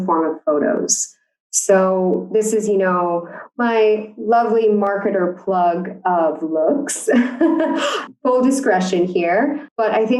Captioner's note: laughs